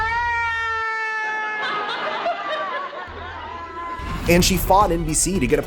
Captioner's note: wailing